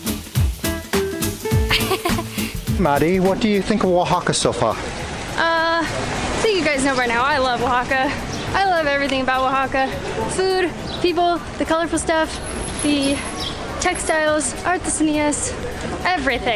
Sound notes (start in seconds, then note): 1.7 laughter